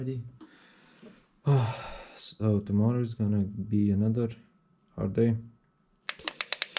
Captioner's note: sigh